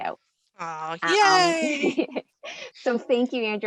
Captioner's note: laughing